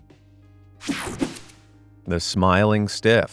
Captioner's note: graphic whooshing